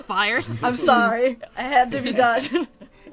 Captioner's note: laughs